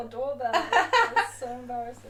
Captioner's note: laughing